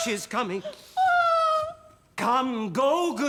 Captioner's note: cries out